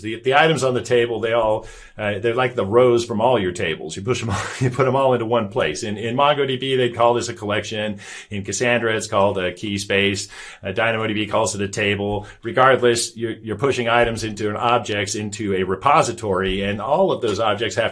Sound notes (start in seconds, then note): 4.2 chuckles